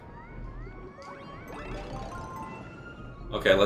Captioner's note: game sounds; instrumental music